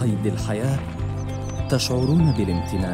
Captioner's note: birds chirping